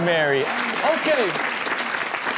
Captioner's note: crowd applauding